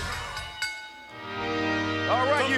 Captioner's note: ring bell clanging; regal music